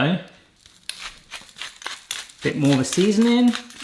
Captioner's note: pepper grinder grinds